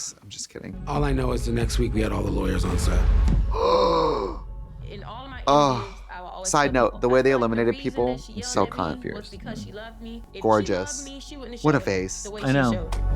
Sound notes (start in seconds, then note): 3.5 Trixie gasps